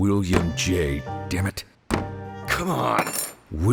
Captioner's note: clink